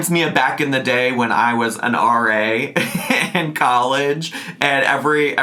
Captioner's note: laughs